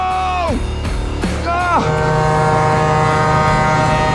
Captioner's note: horn blasts